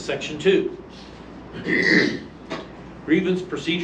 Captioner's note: clears throat; reading from paper